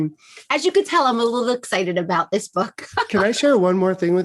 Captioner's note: laughs